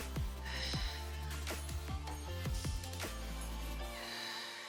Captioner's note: exhaling